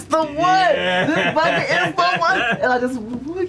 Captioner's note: laughs